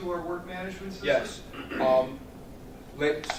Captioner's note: clears throat